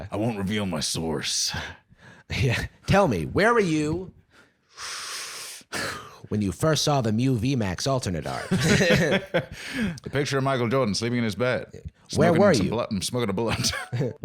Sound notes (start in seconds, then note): 0.1 gruff voice; 2.5 Transatlantic accent; 10.0 Transatlantic accent